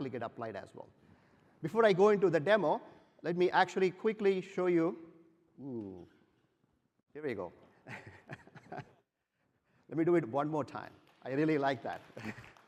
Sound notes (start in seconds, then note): 7.8 laughter